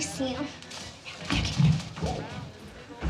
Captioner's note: whispers